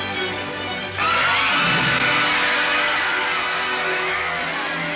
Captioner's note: crowd screams